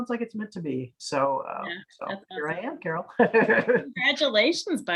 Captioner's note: laughs